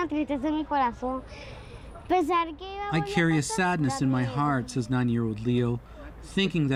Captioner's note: speaking alternate language